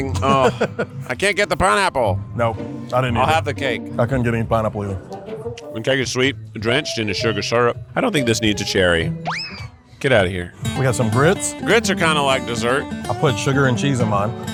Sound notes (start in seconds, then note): 9.2 side whistle whizzing